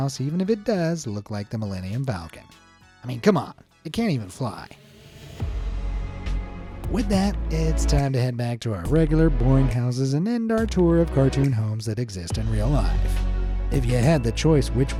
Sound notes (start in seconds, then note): 4.7 air whooshing; 5.4 gentle music